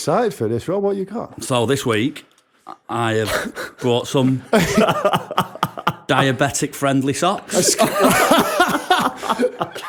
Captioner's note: laughter